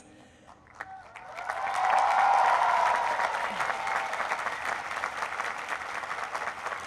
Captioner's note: cheering